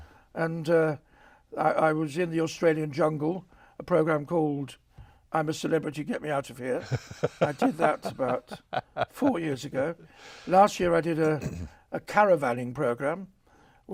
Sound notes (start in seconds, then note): 6.8 chuckles